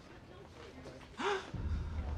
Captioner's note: gasps